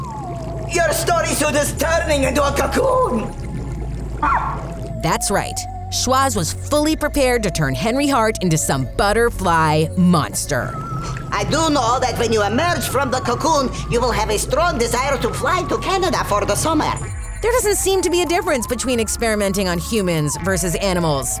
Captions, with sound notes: You're starting to turn into a cocoon. [yelping] That's right, Schwoz was fully prepared to turn Henry Hart into some butterfly monster. I do know that when you emerge from the cocoon, you will have a strong desire to fly to Canada for the summer. There doesn't seem to be a difference between experimenting on humans versus animals,